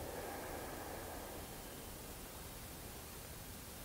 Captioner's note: inhaling